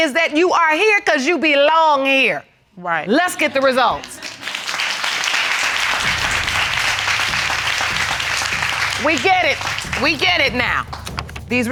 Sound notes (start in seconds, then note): 4.0 audience applauding